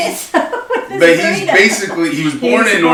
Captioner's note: laughs